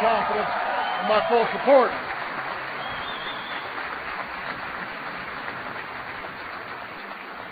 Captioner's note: applause